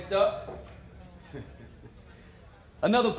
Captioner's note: laughs